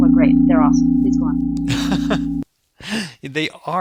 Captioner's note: laughing